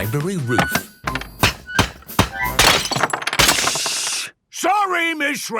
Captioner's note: banging, crashing